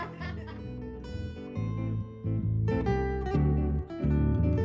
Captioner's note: laughter